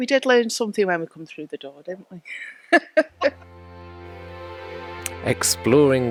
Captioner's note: laughter